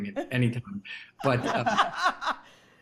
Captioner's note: Rachael laughing